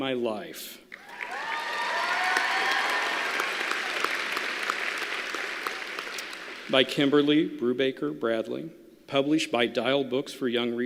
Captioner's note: applause